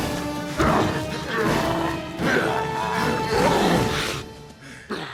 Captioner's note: grunts and roars